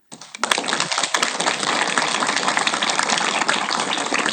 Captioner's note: audience applauding